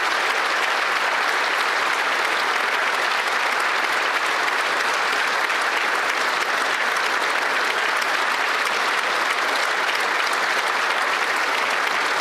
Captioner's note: some Applause